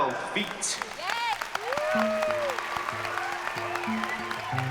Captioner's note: cheering and applause; gentle acoustic music playing